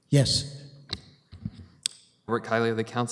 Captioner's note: audio drop